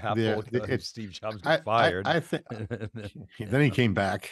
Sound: laughs

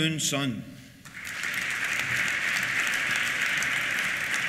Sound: applause

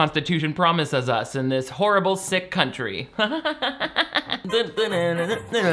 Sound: laughs; playful vocalizing; upbeat Italian music

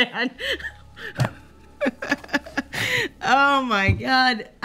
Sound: laughter

